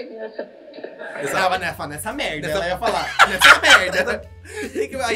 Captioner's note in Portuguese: gargalha